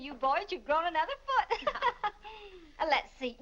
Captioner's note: laughs